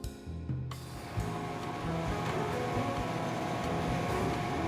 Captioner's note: traffic roaring